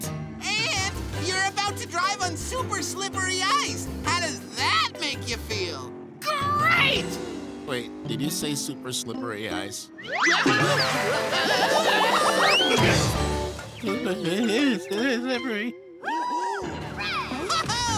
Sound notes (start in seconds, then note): 10.1 screaming; 13.5 groaning